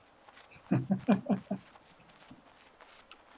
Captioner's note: chuckles